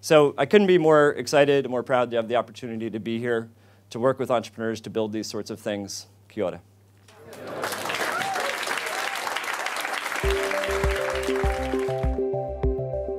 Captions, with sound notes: So I couldn't be more excited, more proud to have the opportunity to be here, to work with entrepreneurs to build these sorts of things, Kia Ora. (audience applause) (bouncy music)